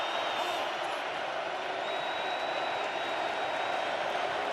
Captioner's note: cheering